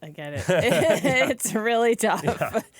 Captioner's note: laughter